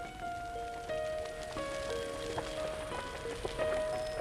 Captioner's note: fire crackling